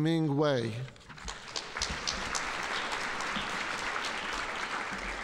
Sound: audience applauding

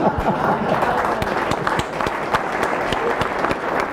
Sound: attendees applauding

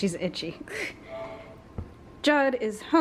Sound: laughing

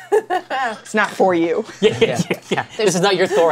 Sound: laughter; laughs

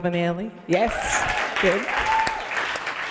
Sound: applause

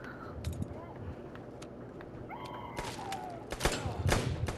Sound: PVZ Bungee zombie:Cowboy noises

